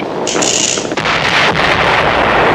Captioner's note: explosion